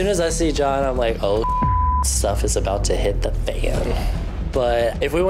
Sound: beep

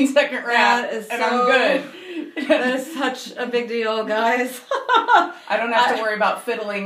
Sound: laughing

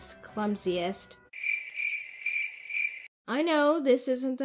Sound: crickets chirping

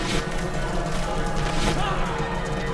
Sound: wooshing

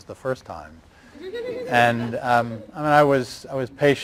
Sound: laughter

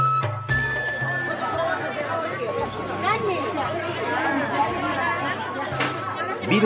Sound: SFX: bustling crowd

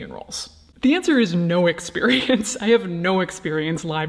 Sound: laughing

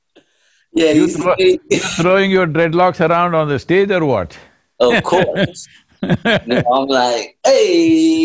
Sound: laughs

